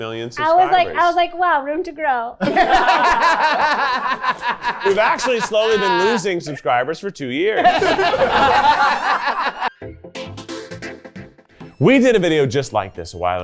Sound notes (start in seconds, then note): 2.4 everyone laughing; 7.6 everyone laughing